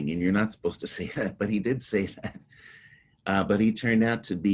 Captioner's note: chuckles